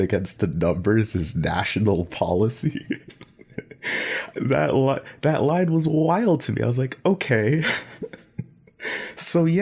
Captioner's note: laughs